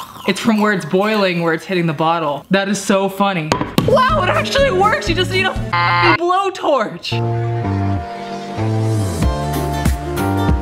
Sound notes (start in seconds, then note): 5.7 beep; 7.3 slow jazzy music